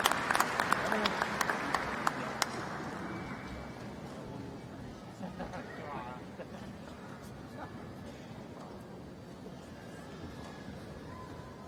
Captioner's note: applause